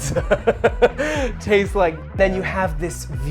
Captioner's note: laughing